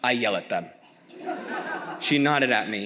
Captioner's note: audience laughs